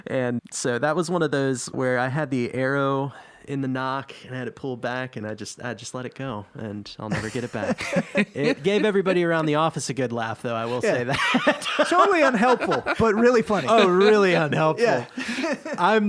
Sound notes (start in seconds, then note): 10.7 everybody laughing